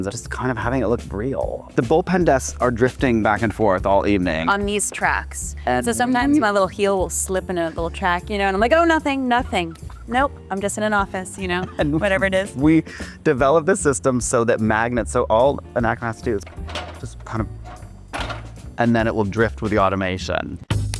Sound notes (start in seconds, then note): 17.8 chair clanks; 20.7 playful instrumental music